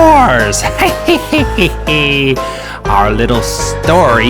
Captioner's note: devious laughing